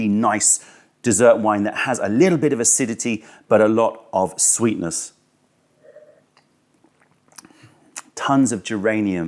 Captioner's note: sips tea